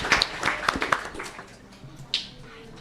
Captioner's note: applause